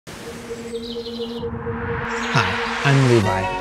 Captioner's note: ethereal music; birds chirping